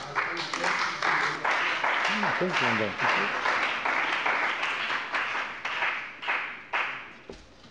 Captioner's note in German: Beifall bei dem BÜNDNIS 90/DIE GRÜNEN und der CDU